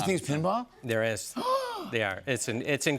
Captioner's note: gasps